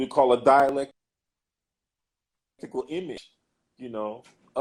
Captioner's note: glitch